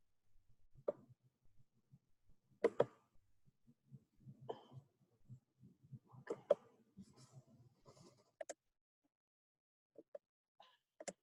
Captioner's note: silence